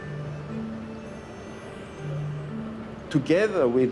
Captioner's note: construction sounds fade